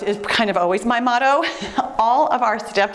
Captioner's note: giggling